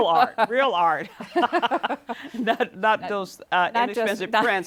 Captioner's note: laughter